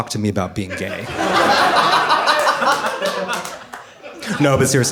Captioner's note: audience laughing